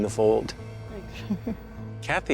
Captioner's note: laughing